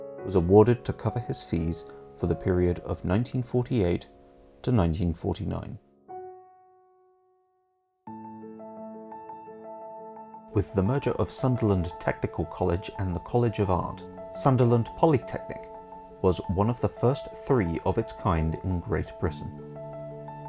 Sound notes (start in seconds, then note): 6.4 music stops